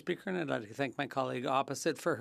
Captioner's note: speaking French